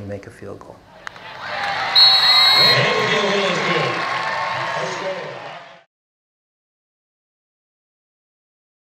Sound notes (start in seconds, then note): 0.9 football crowd noise